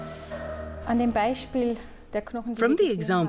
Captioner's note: speaking German